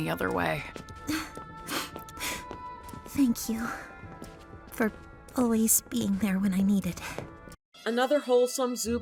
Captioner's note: sniffles